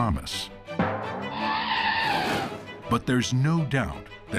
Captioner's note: elephant trumpeting